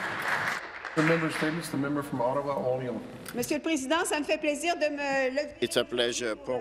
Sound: applause

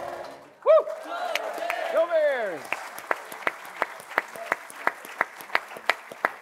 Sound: all cheering and applauding

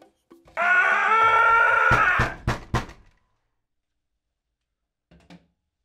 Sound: knocking on door

